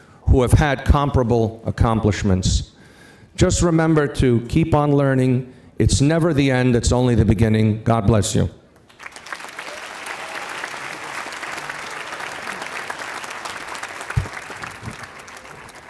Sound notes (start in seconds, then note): 8.8 audience applauding